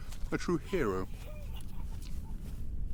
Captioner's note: quiet laughing